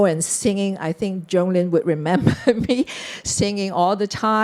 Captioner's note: chuckles